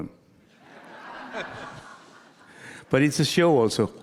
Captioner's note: audience laughing